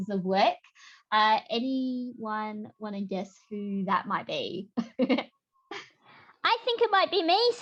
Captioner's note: laughter